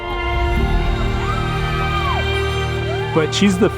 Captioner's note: crowd cheering